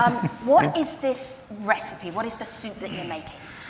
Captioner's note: laughter